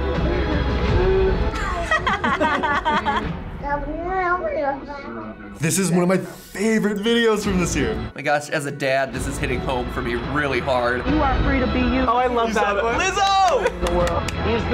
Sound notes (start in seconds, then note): 1.4 both laugh; 1.8 baby babbles